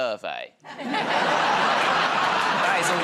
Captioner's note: laughter